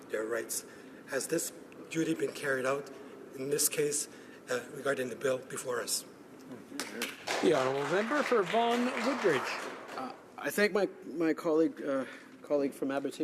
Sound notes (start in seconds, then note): 11.2 applause